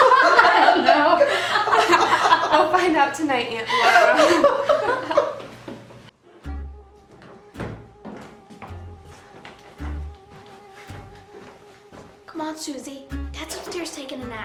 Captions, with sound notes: (laughing) - I don't know. We'll find out tonight Aunt Laura. (laughing) (mischievous music) - Come on Suzy.